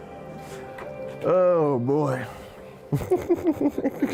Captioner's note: laughs